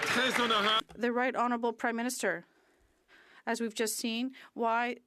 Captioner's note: some Applause